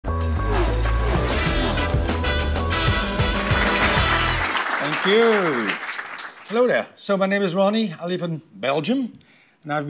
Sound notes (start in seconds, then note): 0.1 upbeat music; 3.4 clapping